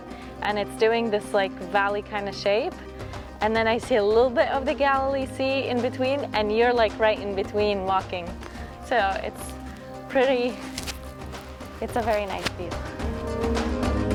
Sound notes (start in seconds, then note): none